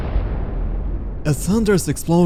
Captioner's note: loud explosion